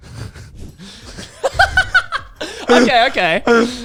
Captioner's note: laughs